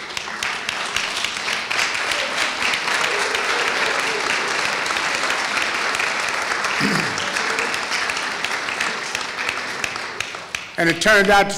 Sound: applause

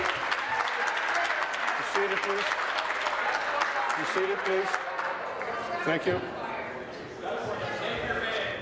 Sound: applause

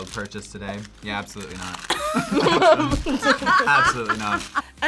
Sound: group laughs

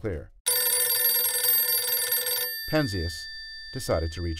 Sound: phone Ringing

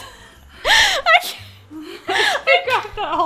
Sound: laughs

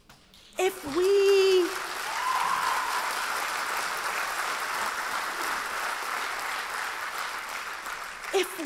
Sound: applause

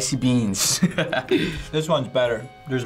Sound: laughs

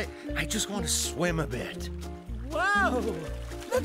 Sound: laughing

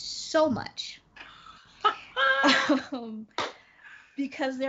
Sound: Brennan laughs

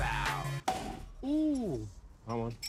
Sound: bottle popping

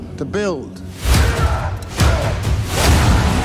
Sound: smashing and screaming

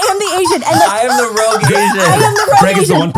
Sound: everyone laughs

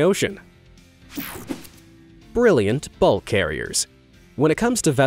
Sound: air whooshing

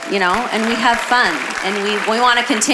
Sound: congregation cheering and applauding

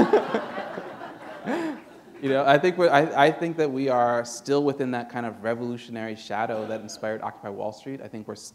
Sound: laughter

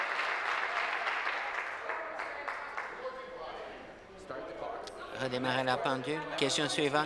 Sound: applause

